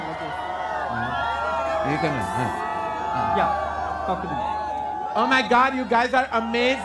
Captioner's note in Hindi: चियरिंग